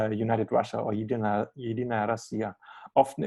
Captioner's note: speaking Russian language